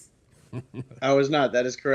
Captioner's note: laughs softly